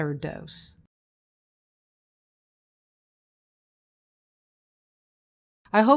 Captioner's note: silence